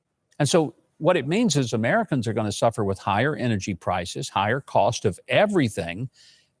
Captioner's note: none